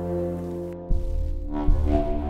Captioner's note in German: Dröhnen